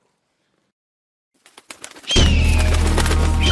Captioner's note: wings flapping; gull squawking